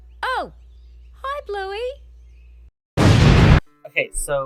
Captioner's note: explosion